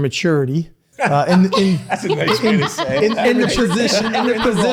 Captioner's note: laughs